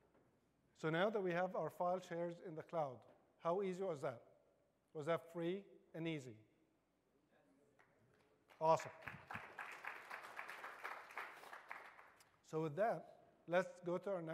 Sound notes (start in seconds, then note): 5.5 applause